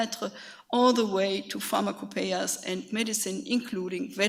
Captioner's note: speaks foreign language